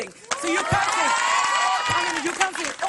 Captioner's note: cheering